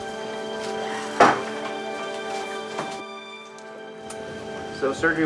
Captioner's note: door thuds